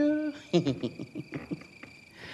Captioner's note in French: Rire